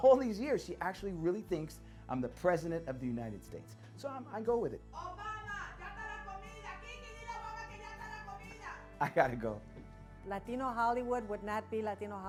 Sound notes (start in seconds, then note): 6.7 speaking Spanish